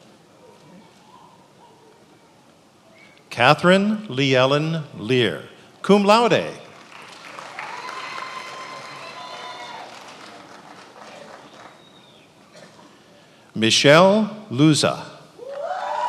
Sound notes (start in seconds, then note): 6.7 attendees applauding; 15.4 attendees applauding cheering